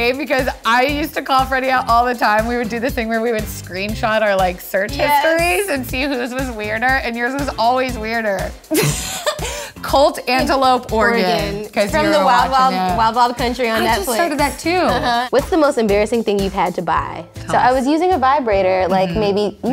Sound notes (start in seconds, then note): 8.8 laughs